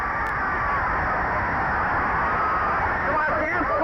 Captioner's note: crowd cheering